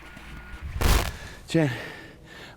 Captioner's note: static; breathing heavily